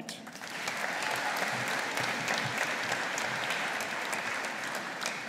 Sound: audience applauding

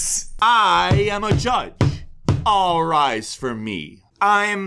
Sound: pounds gavel

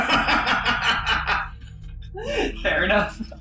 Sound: laughs

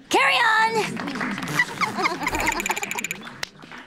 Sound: applauding, giggling

